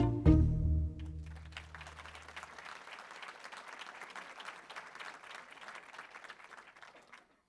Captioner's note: applause